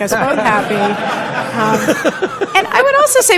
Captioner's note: laughter